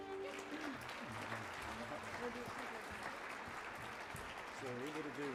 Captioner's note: audience applauds